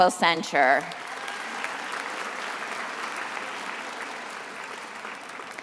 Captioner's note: attendees applauding